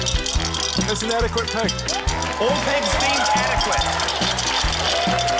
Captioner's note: cheering, applause; coins rattle